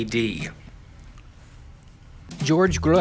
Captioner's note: chewing